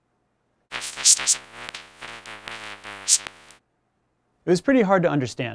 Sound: electronic noises

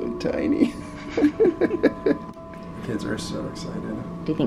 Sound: laughter

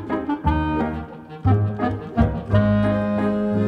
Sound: none

